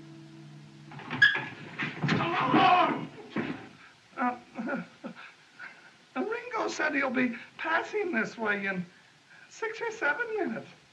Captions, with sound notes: - [ Door Squeaks ] - [ Crowd Gasps, Shouts ] Uh - [ Stammering ] Ringo said he'll be passing this way in... six or seven minutes.